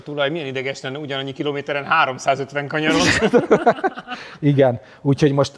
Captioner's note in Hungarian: nevetés